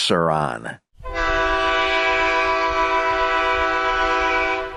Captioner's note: horn blasts